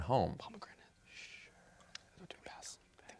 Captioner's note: whispers